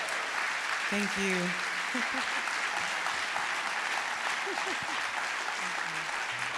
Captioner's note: audience applauding; laughing